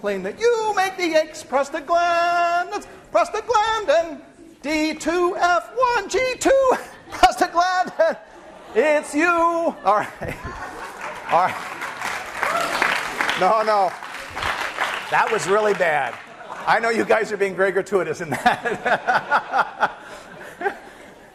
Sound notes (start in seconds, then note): 10.6 applause; 16.0 class laughing; 18.2 laughter